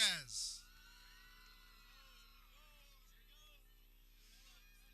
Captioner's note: people cheering